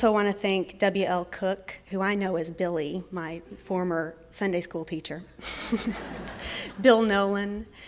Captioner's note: laughter